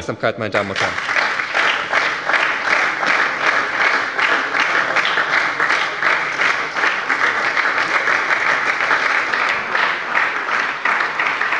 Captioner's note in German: Anhaltender Beifall bei der SPD